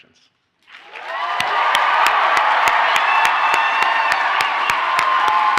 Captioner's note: audience cheers and applauds